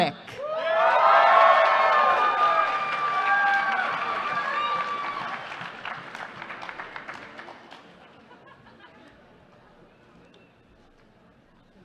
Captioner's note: applause